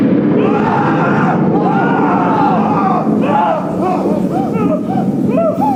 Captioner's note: thunder; yelling and screaming